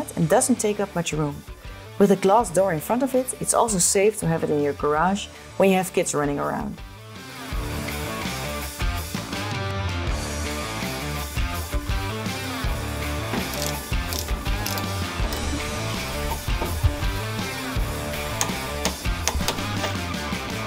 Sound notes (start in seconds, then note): 7.5 uptempo rock music; 13.4 tool clicking